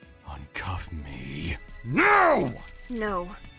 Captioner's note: handcuffs click closed